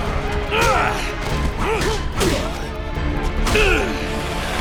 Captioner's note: fight sounds